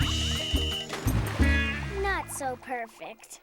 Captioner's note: whistle blows